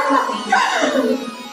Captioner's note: laughing